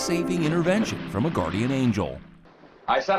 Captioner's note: water splashes